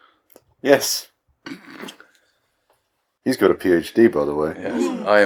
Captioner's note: chuckles